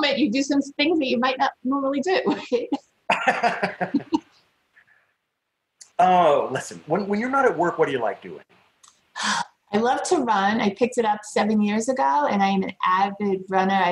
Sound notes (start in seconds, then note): 3.1 laughter